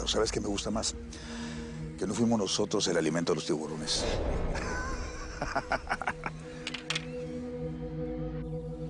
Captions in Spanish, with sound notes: PERO ¿SABES QUE ME GUSTA MAS? QUE NO FUIMOS NOSOTROS EL ALIMENTO DE LOS TIBURONES. [Risas]